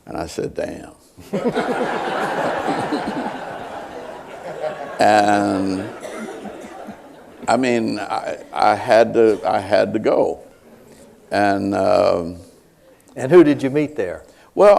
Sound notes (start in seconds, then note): 4.2 laughter